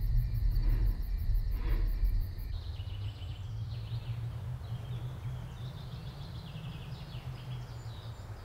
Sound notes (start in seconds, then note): 3.5 birds chirping